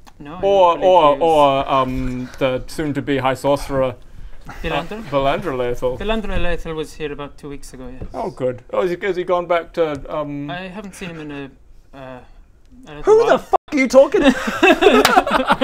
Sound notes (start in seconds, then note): 2.0 lost noises